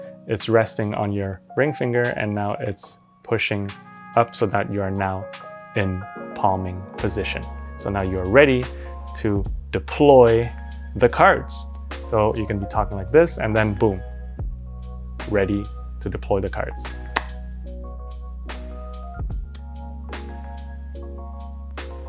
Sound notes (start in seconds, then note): 17.1 cards slap; 18.0 gentle music